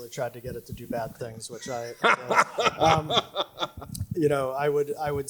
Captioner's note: laughs